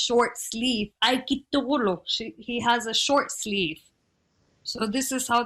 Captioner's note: speaking inuktitut